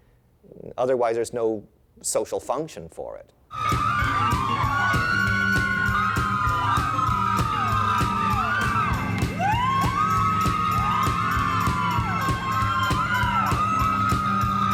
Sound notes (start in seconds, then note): 3.5 upbeat funky music playing; 3.5 women screaming